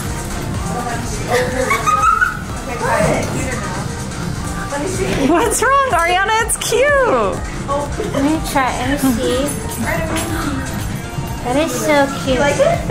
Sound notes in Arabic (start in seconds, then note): 1.2 يضحك